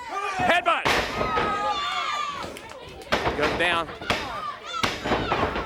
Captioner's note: crowd chatter